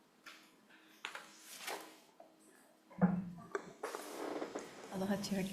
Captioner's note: paper rustling